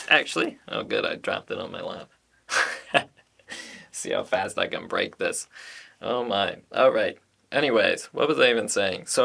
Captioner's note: wry laugh